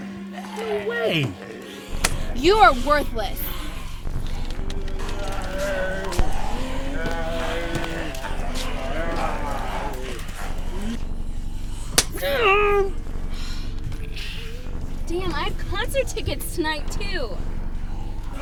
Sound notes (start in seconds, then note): 4.7 zombies grunting and grumbling; 11.9 slap thwacks